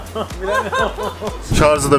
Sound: laughter

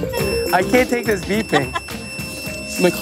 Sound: laughing

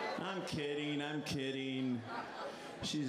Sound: laughter

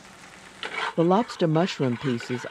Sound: voiceover

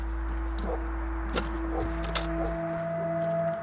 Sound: distant dog barking

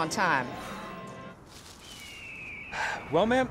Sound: leaves crunch, hawk screeches; sighs

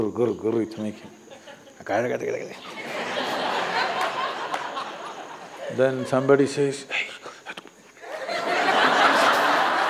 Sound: applause; laughter

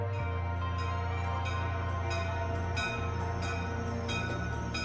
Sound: locomotive bell ringing

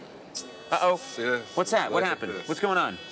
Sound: alarm beeping

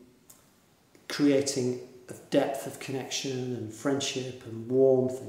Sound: none

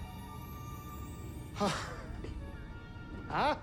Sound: laugh

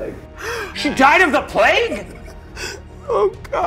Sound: gasping

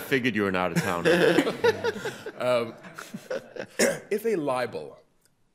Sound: laughter continues

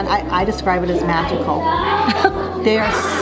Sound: laughs and smiles

